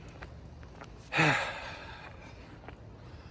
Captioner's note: sighs